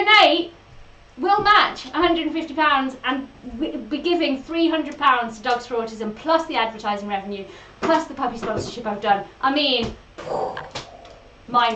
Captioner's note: makes an explosion noise